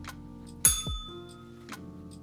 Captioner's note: bell rings